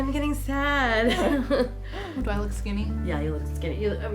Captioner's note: laughs